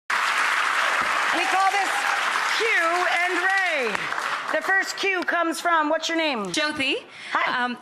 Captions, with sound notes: (applause) We call this Q and Ray. The first Q comes from, what's your name? Josie. Hi.